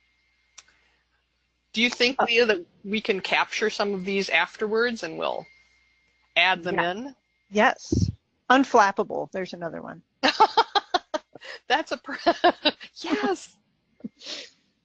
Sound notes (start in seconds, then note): 0.0 silence; 10.2 laughs